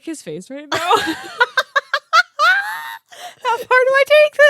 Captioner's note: laughing